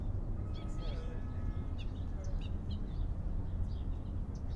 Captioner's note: birds chirping